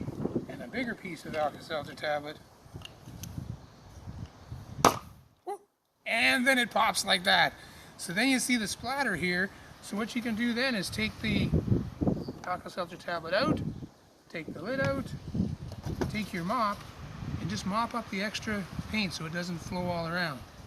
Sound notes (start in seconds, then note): 4.8 pop!